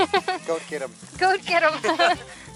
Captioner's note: laughter